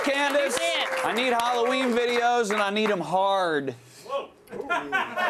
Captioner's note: applause